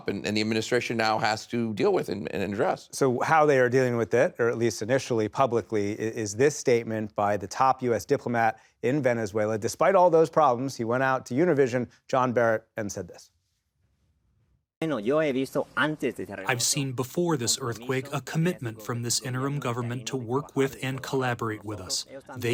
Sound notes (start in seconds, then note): 14.6 speaking Spanish